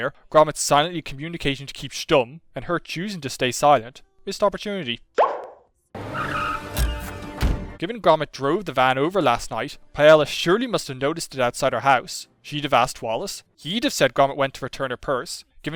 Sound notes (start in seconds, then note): 6.0 tyres screeching; 6.5 car door opens, closes